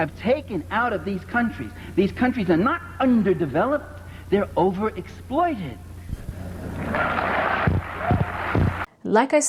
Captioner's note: applause